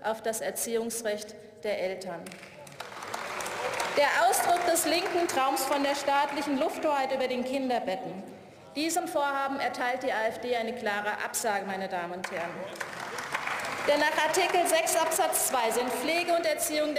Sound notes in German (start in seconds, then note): 2.2 Beifall; 12.2 Beifall